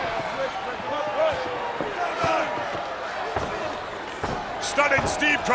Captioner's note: hands thudding; blows thudding